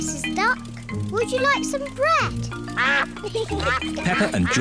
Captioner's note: ducks quack